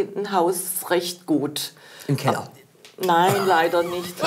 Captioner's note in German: lacht